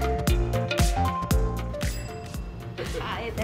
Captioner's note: bell dinging